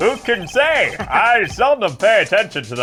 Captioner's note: laughs